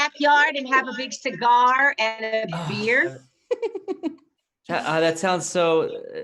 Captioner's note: laughing